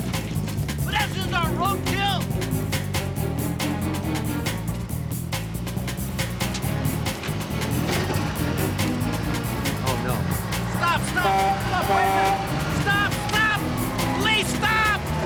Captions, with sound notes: Hey! Pedestrians aren't road kill! Oh, no. Stop! Stop! (horn honking) Stop! Wait a second! Stop! Stop! Police! Stop!